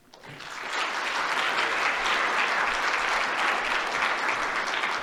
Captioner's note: applause